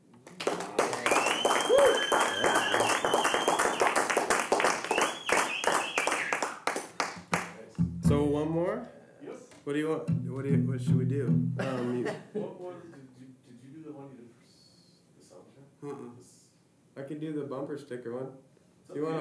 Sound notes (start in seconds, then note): 0.2 applause